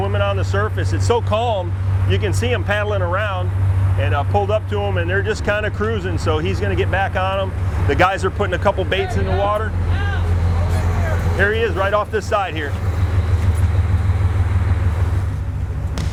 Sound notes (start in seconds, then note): 8.6 shouts